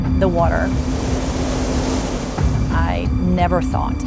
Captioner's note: water rushing